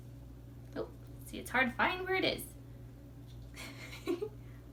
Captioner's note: laughs